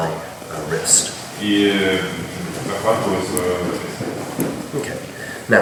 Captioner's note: speaking in a foreign language